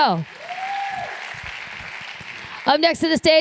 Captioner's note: applause